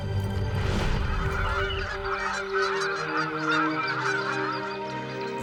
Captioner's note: geese squawking